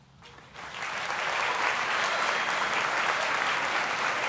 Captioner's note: audience applauding